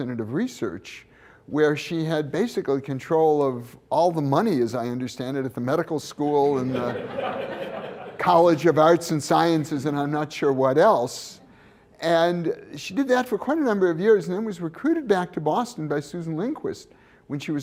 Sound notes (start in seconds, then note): 6.5 laughter